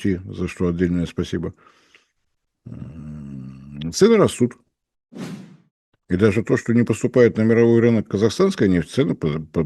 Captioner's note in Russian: фыркает